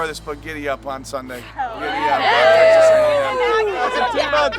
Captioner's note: girls cheer